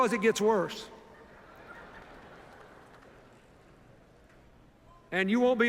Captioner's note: laughter